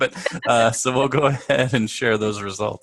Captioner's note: laugh